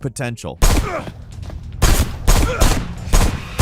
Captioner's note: gunshots